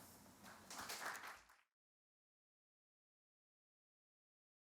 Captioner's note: audience clapping